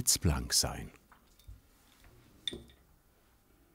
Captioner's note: clinking